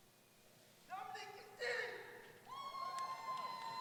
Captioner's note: voiceover; cheering